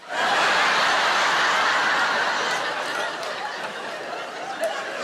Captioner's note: audience laughs